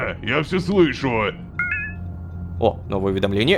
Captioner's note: notification